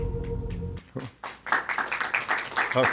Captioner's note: applause